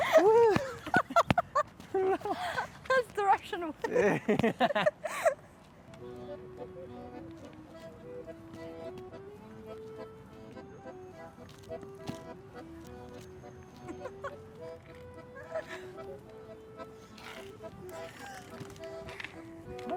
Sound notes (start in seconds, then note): 6.2 jaunty accordion music; 13.7 laughing